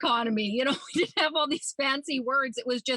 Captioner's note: laughs